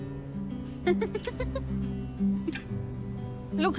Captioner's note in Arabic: يضحك